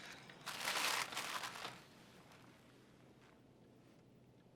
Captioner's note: paper rustling